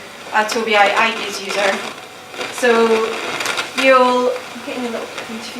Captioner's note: chatter